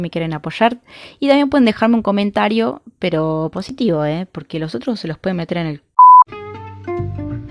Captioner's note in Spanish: pip